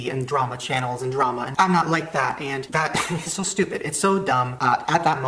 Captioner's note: laughs